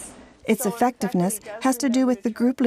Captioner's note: voiceover